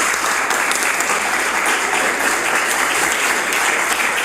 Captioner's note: applause